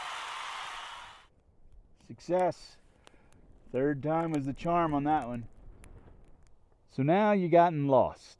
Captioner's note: noise of crowd cheering